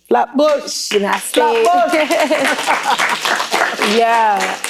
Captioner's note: applause